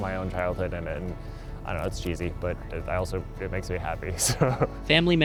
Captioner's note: laughs